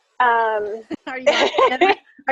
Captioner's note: laughing